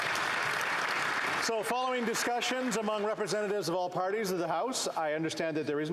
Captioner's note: applause